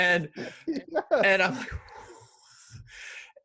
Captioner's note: sighs